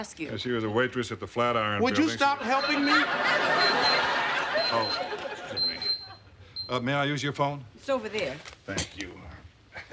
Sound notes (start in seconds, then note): 2.5 pager beeping